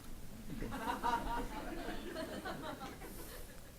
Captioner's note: audience laughs